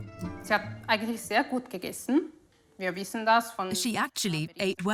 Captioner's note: speaks in foreign language